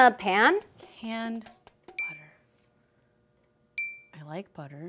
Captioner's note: two pings